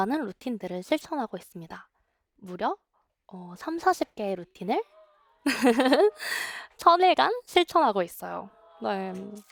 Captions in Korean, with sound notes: 많은 루틴들을 실천하고 있습니다. 무려 30~40개의 루틴을 (웃음) 1,000일간 실천하고 있어요